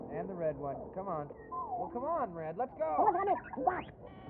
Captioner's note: beep beep